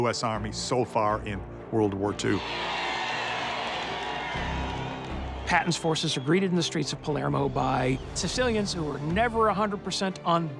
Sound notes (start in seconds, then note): 2.3 spectators cheering